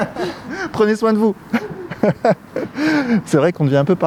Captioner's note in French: rires; rires